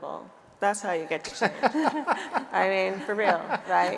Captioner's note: laughing